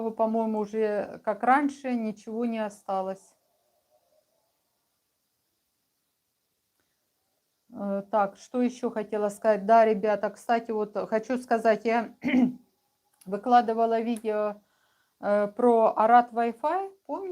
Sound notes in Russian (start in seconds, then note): 12.2 откашливается